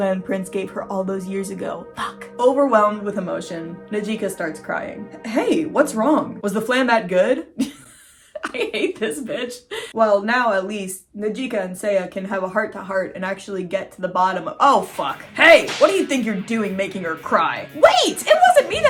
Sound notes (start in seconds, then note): 1.9 whispers; 7.6 laughing; 14.8 hardcore music